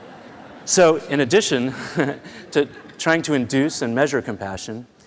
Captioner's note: laughter